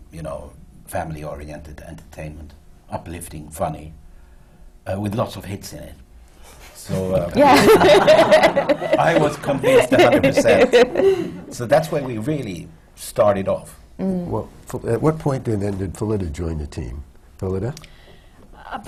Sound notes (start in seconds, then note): 7.4 laughter